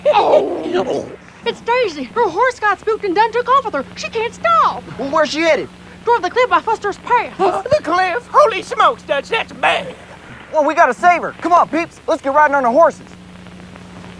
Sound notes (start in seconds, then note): 0.9 mocking